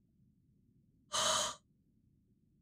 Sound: exhales

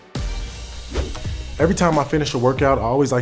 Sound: air whooshing

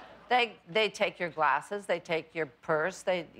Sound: laughter

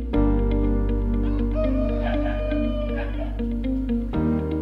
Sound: roosters crowing

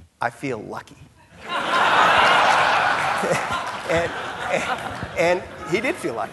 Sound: audience laughing

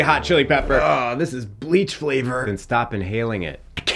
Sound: groans

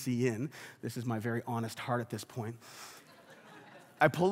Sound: congregation laughs

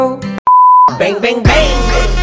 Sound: beep

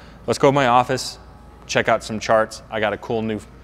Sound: none

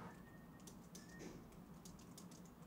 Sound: keyboard keys clack

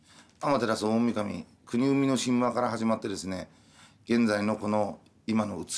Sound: speaking in foreign language

